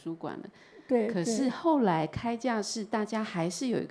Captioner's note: Mandarin